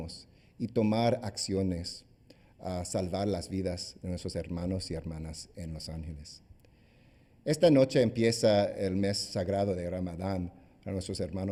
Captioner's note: speaking spanish